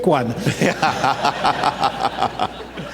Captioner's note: laughter